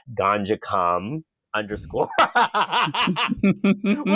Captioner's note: cackles